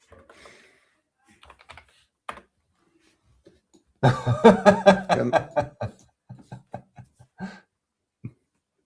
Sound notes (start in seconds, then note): 2.1 laughter